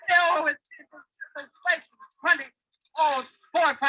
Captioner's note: audio distorting